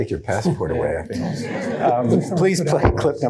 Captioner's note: all laugh